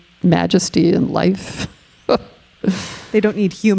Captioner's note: chuckling